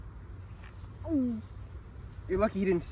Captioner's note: Jones gulps